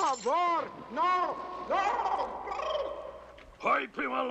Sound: gurgling

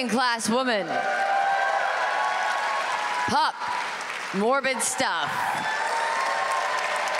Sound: applause

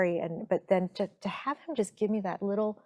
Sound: none

